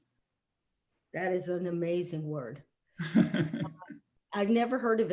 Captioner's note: laughing